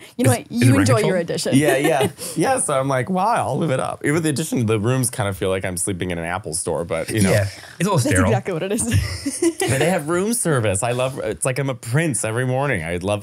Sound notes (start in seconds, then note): 0.2 laughing; 8.8 laughing